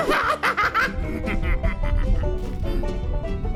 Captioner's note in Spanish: Se ríe diabólicamente